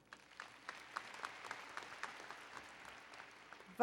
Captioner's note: applause